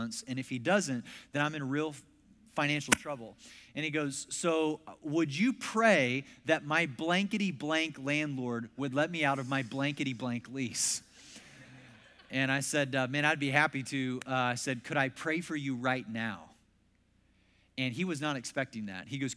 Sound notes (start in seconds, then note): 10.8 congregation laughs